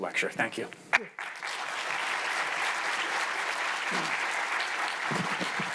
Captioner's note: audience applauds